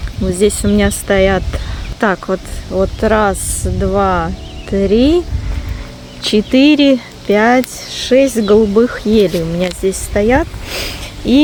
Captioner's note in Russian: фыркает